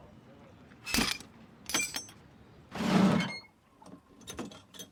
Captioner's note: lock clangs